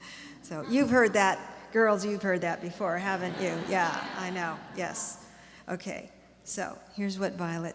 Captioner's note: laughter